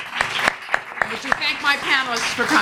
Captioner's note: applause